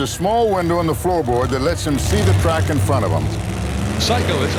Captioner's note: voiceover